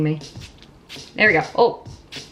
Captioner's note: spraying